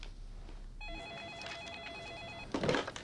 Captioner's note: phone ringing